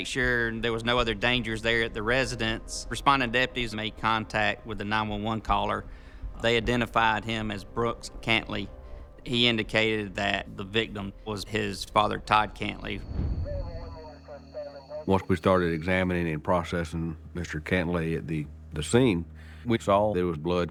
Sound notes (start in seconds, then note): 12.8 police radio chatter